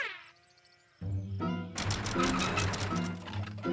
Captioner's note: pulley creaking